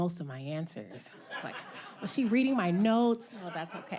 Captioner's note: audience laughing; chuckling